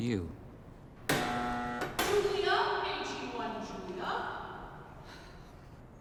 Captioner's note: buzzer